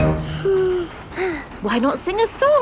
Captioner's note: both sigh